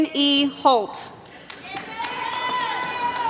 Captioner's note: applause